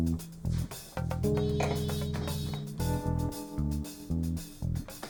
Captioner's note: telephone ringing